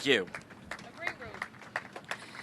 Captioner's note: applause